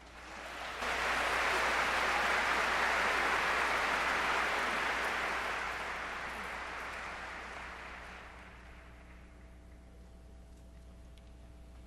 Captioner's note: applause